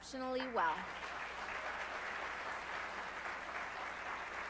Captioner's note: applause